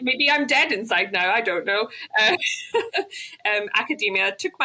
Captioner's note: laughs